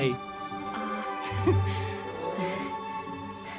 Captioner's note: nervous chuckle